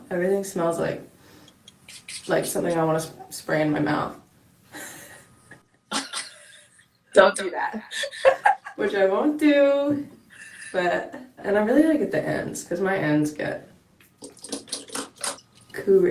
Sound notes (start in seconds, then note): 5.9 laughing